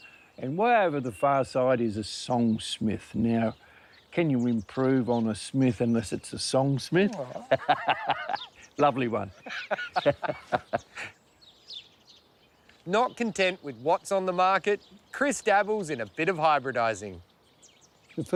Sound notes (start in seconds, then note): 7.0 laughs; 9.3 both laugh